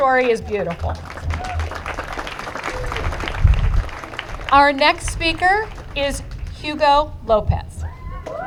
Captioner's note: applause